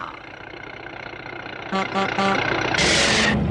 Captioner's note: car horn honks; car screeches to a halt